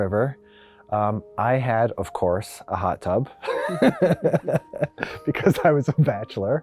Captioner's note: laughs